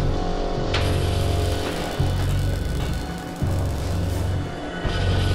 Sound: machinery and Welding in Background

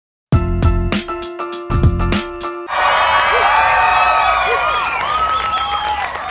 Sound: cheering

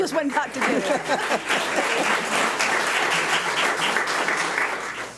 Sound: audience applauds

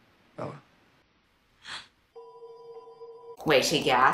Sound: Bella gasps

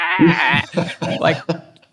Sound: screams

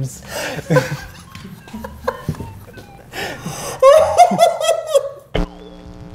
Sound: laugh

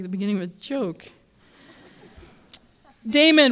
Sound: laughter

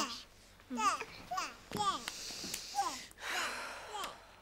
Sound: baby gurgles

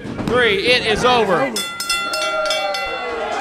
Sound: bell rings; crowd cheering

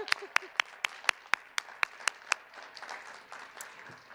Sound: cheers and applause

